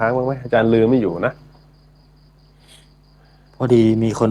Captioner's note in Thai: เสียงสูดหายใจ